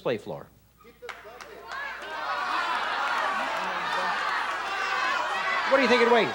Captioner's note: audience shouting